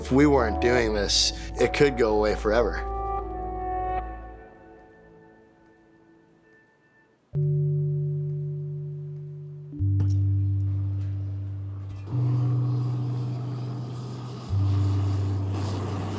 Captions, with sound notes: If we weren't doing this, it could go away forever. (music slows) (blowtorch is lit)